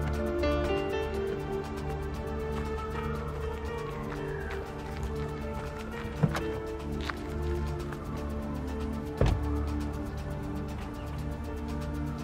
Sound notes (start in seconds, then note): 3.0 distant police sirens alarming